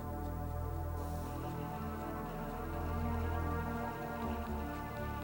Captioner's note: shower running